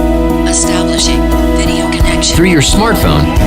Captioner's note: robotic Assistant